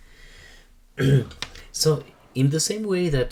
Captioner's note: instructor clears throat